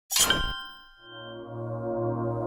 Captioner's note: intro sound